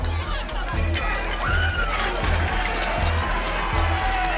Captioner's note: glass breaking, woman screaming